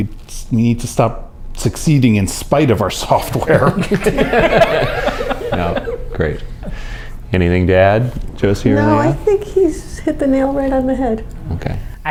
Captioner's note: laughter